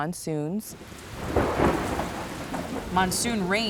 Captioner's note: rain pouring; thunder cracking